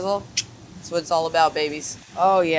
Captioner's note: tongue clicks